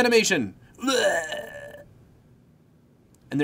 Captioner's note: mimicking death sounds